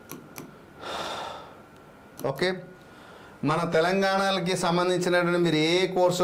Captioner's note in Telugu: నిట్టూర్పులు